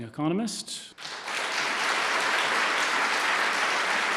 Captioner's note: applause